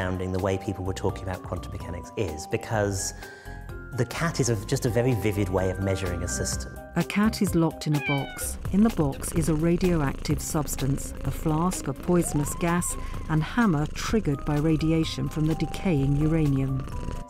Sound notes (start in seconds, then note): 7.9 cat meows; 8.8 cat purrs